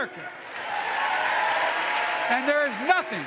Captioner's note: applause